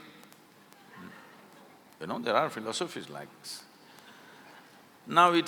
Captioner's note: laughter